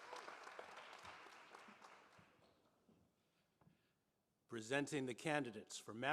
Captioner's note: applause